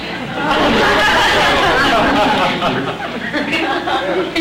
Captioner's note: audience laughter